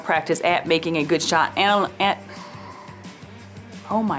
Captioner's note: sighs